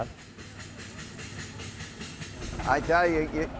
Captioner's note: steam engine sounds